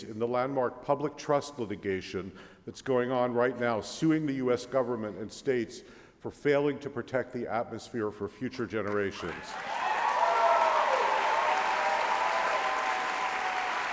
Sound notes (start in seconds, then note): 8.8 applause